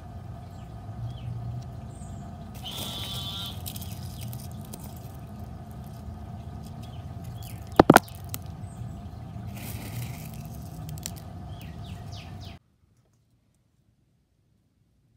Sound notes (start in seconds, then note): 1.0 bird chirping; 2.9 frog noise and pebbles crunching